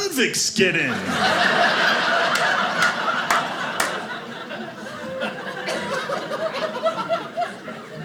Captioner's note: audience laughing